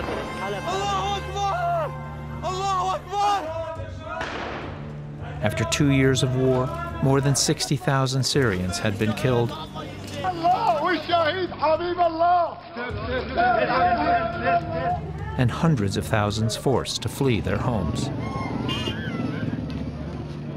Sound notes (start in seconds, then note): 11.3 shouting